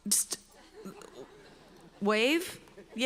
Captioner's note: audience laughs